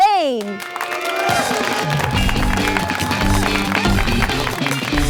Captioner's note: crowd clapping and cheering